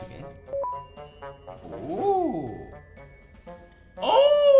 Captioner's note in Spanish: Sorprendido